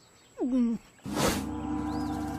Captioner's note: Lindsay Gulps